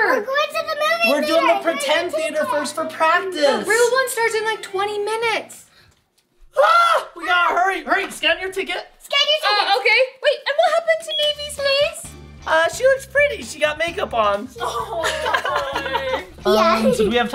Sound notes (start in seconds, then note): 6.5 dad exclaiming; 14.6 everyone laughing